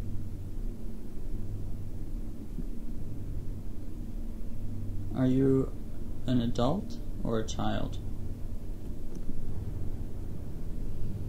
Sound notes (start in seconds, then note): none